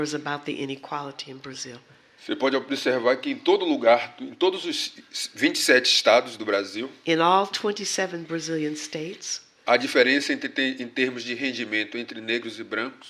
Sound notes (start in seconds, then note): 4.7 speaking portuguese; 11.4 speaking portuguese